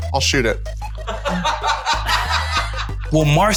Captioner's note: laughter